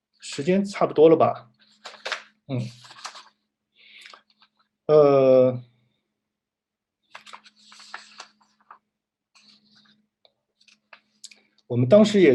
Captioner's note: sound of flipping through paper